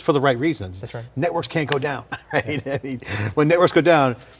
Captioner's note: laughing